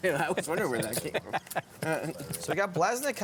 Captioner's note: laughter